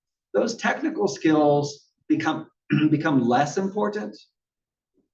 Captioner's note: cough